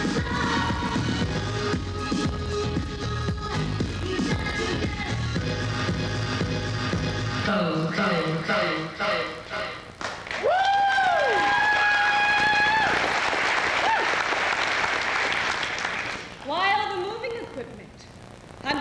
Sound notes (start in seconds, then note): 10.1 cheers, applause